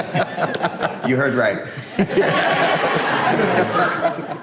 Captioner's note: laughs; group laughs